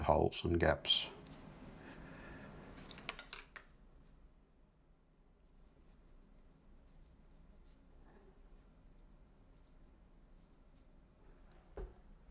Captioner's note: silence